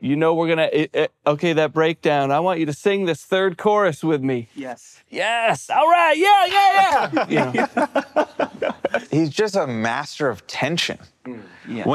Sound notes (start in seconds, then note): 6.8 laughs